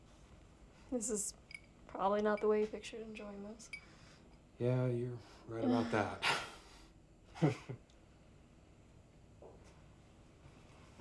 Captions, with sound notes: - This is, probably not the way you pictured enjoying this. - Yeah, you're right about that (laughs). (Ben chuckles)